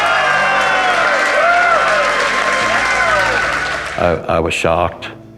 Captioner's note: applause